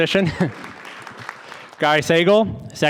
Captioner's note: audience applauding